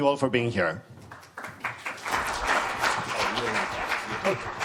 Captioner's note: applause